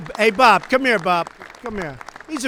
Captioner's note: applause